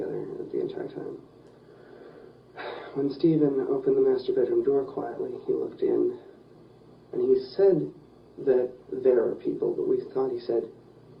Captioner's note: sighs